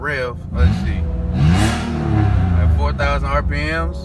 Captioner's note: car engine revving